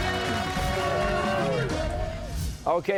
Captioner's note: cheers and applause